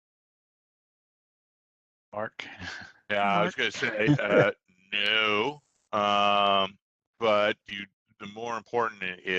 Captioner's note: laughs